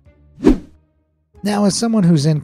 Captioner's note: logo whooshing